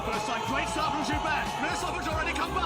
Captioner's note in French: commentaires sportifs intenses